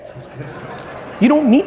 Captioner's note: audience laughing